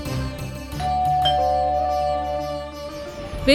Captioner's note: doorbell dings